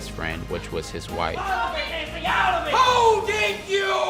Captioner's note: couple yelling